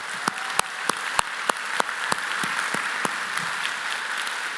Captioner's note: applause